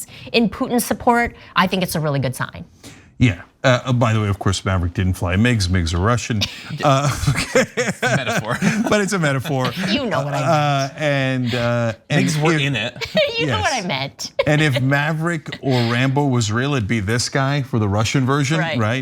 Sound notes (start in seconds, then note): 8.4 laugh